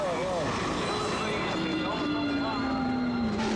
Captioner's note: announcer chatters